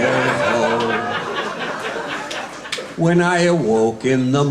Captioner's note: guests laughing